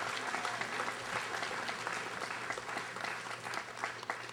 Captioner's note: audience applauding